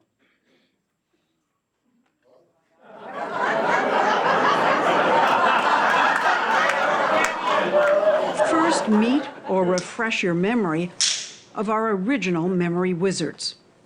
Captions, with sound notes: >> Hello? [ Laughter ] >> First meet or refresh your memory [clapper snapping] of our original memory wizards.